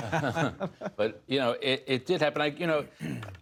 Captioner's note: laughter